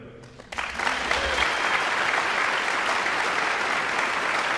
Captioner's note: guests applauding